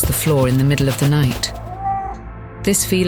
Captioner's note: cat meowing